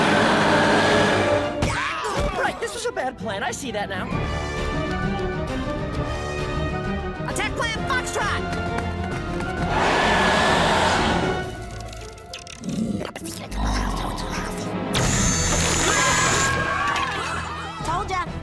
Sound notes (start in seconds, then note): 0.0 growls; 9.7 growls; 15.6 mummies screaming